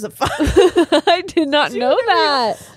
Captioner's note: all laughing